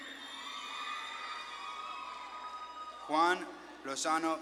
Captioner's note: audience claps and cheers